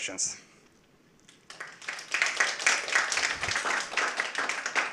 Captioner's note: applause